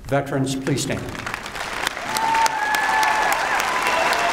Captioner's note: applause